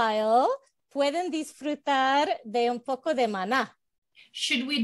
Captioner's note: Spanish